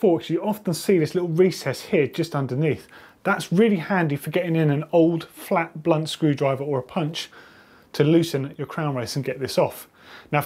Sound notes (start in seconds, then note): none